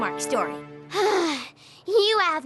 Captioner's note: sighs